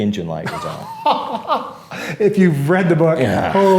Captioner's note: laughs